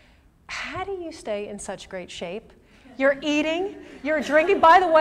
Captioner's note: laughter